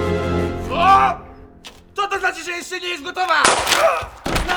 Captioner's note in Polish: strzał